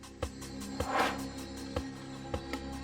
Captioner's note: air swooshes; intriguing music continues